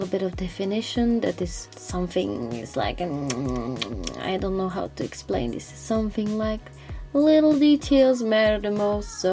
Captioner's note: delicious food noises